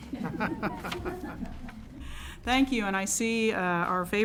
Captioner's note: laughter